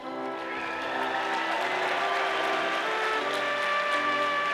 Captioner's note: audience applauding